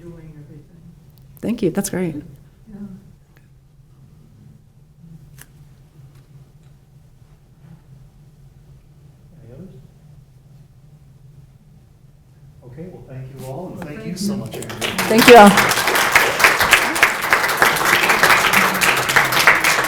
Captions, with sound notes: Thank you, that's great. - Anybody else? Okay, well thank you all. And thank you so much Andrea. - Thank you all. (clapping)